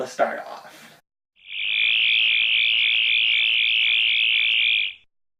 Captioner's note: sonic screwdriver buzzing